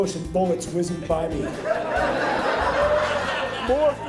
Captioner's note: audience laughing